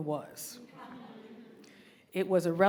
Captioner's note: audience laughing